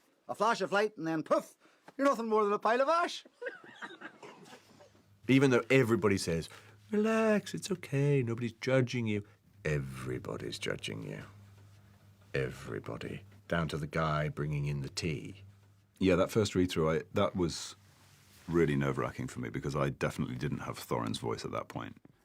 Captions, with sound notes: A flash of light and then poof. You're nothing more than a pile of ash. [MEN LAUGHING] Even though everybody says, "Relax, it's okay. Nobody's judging you." Everybody's judging you. Everybody. Down to the guy bringing in the tea. Yeah, that first read-through, that was really nerve-wracking for me... ...because I definitely didn't have Thorin's voice at that point.